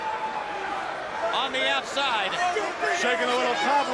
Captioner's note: crowd chatter